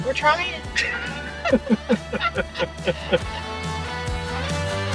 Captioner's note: both laugh